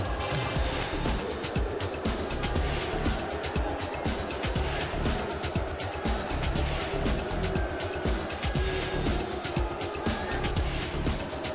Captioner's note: crowd cheering